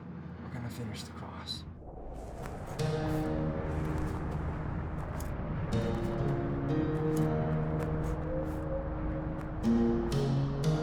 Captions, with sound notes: We're gonna finish the cross. (gentle music) (wind whooshing)